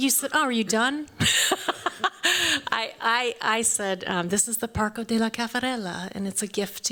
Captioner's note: chuckles